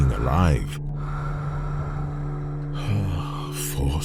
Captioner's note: sound of breathing